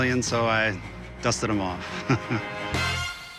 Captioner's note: laughs